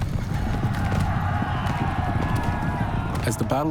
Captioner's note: warriors shouting